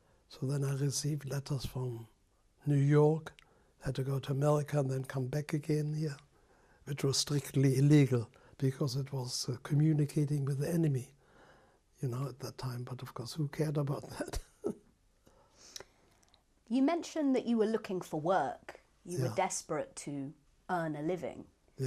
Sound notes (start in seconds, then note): 14.0 laughs